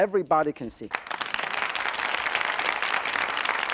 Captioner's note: applause